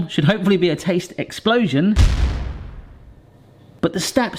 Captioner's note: explosion booms